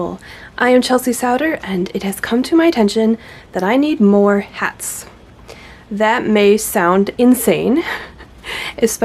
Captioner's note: laughs